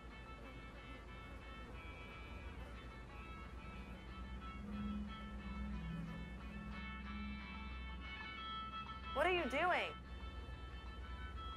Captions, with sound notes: (flies buzzing) (ominous ambient music) - What are you doing?